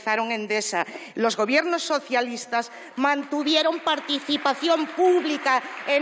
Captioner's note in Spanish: Aplausos